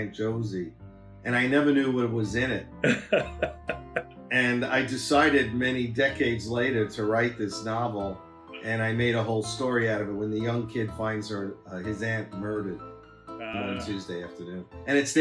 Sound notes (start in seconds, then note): 2.8 laughs